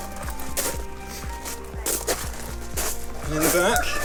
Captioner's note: feet crunching